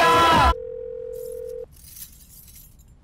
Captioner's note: Line ringing